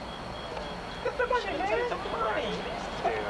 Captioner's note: chatter